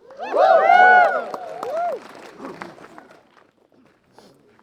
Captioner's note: cheering